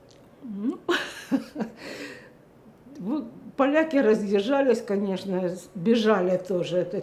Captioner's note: laughing